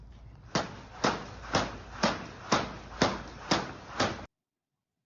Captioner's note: ropes smacking the ground